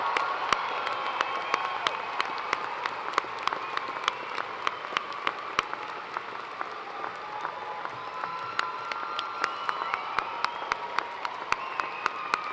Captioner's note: cheers and applause